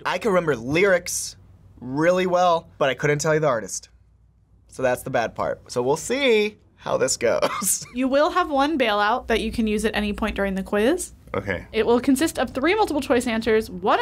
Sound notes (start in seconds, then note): 7.7 laughs